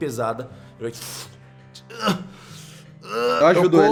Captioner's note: pff